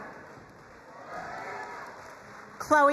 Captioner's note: crowd cheering and applauding